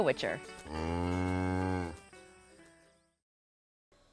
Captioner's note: moos deeply